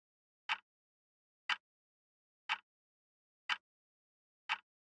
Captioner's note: tick